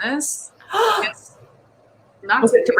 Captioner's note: gasps